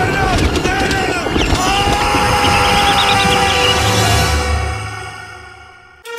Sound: screaming

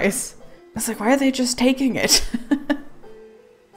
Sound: laughs

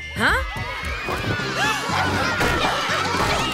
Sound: screaming

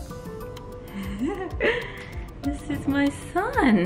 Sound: laughs

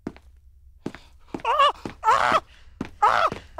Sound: screams

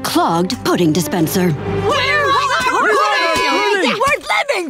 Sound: clamoring

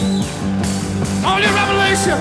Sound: audience cheers

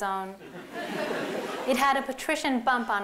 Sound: laughter

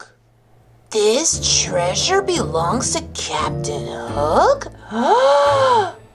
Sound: gasps

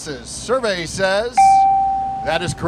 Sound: bell

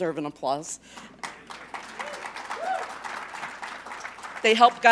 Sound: applause

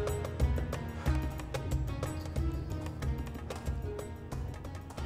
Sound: none

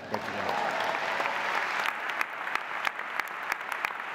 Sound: audience applauding

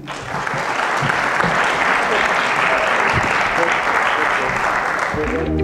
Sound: audience clapping

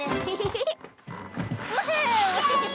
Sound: chuckles; sled sliding

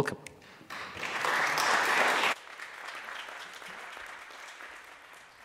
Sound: audience clapping

